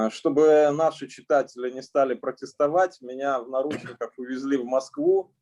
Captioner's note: speaking Russian language